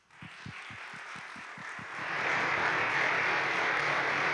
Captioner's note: audience applauding